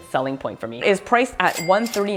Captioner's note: bell dings